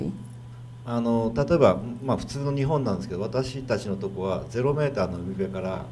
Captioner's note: speaking foreign language